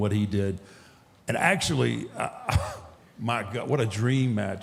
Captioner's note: chuckles